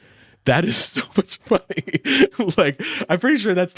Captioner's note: laughs